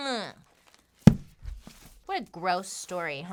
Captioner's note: slams book